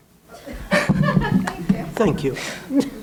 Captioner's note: laughs